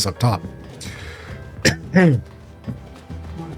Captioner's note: cough